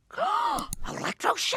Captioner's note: Marge gasps